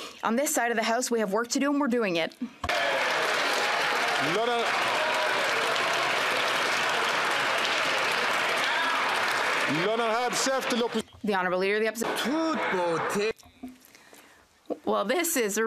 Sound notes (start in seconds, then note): 5.6 some Applause